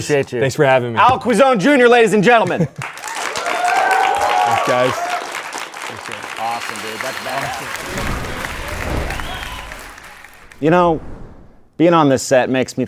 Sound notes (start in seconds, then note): 3.5 audience clapping; 7.7 logo whooshing; 8.4 audience clapping